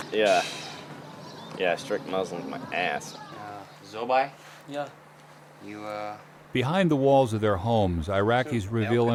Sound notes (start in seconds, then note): 3.8 repeating Arabic; 6.5 voiceover